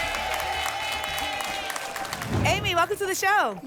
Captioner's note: applause and cheering